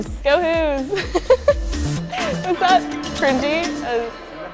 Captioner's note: chuckles